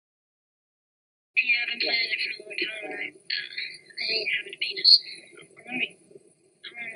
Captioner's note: child voice